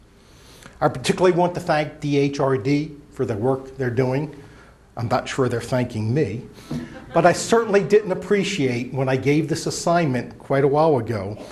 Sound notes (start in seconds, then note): 6.6 laughter